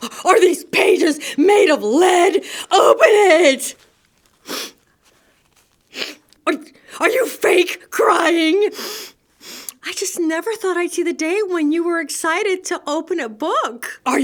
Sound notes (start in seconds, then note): 4.0 storyteller fake-cries